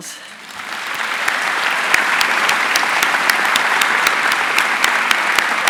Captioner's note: audience applauding